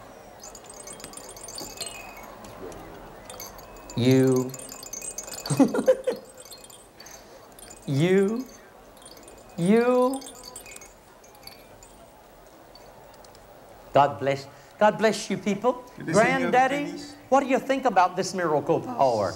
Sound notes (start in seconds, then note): 3.1 shaking rattle; 5.5 laughter; 7.8 shaking rattle